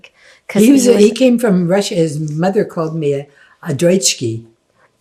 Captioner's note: non-english